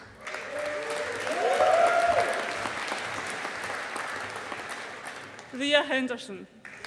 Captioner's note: audience applauding